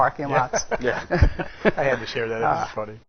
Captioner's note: laugh